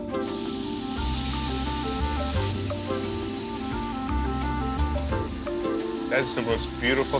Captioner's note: sizzling loudly